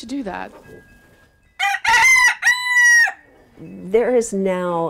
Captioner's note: rooster crowing